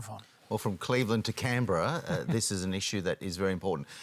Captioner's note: chuckles